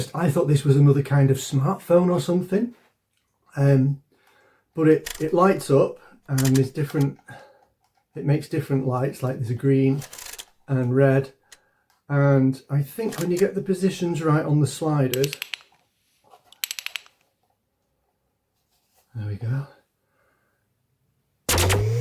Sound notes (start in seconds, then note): 16.4 slider clicking